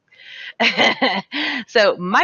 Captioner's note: laughs